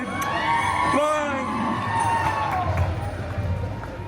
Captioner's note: guests cheering and applauding